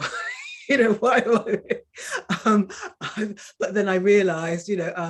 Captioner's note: woman laughing